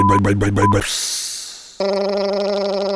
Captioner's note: backup beeper; hiss